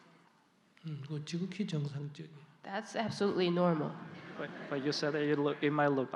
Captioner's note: audience Laughter